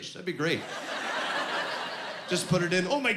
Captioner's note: laughing